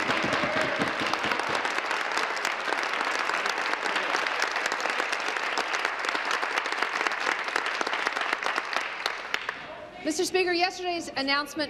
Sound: applause

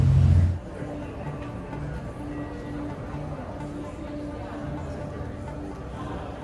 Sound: crowds softly chattering; suspenseful music

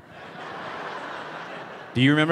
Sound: audience laughing

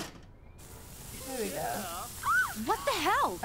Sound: girls squealing

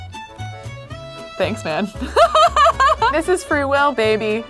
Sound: laughs

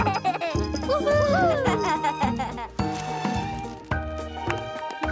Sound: Bobble giggles; cheering

